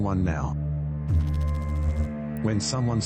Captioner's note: electrical noise